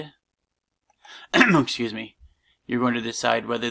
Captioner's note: clears throat